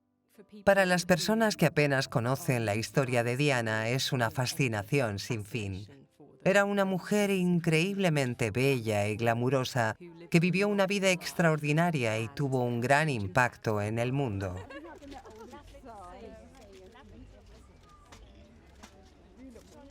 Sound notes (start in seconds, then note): 13.3 laughs; 15.3 reporters chattering